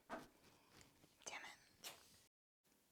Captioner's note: whispered